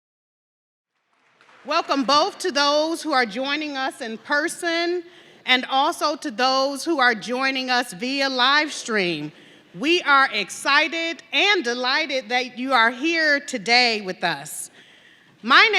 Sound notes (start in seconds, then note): 0.9 audience clapping